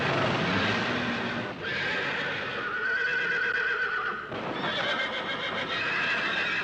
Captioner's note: whinnying